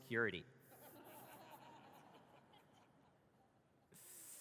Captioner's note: audience laughs